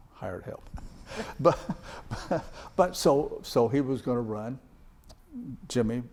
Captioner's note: chuckles